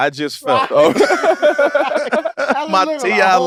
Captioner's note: group laughs